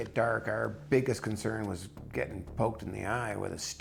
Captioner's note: voiceover